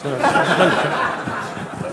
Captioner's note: laughter